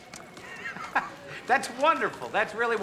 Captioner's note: laughs